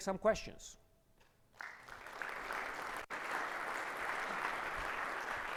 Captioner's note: audience applauding